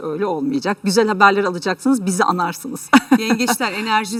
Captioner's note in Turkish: kahkaha